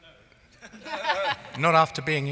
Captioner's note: laughing